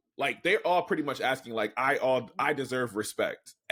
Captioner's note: none